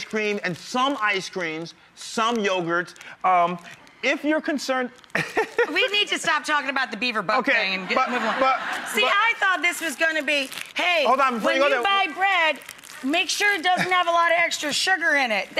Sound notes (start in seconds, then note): 5.1 laughs; 7.8 crowd laughs